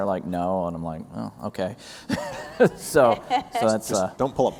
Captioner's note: laughs